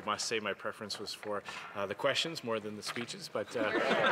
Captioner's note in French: voix de l'interprète